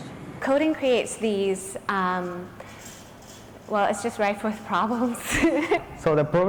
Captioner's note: laughter